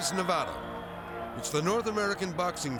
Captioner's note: crowd shouting